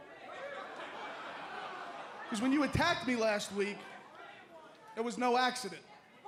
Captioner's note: crowd chatter